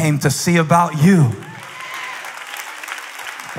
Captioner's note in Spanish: Aplausos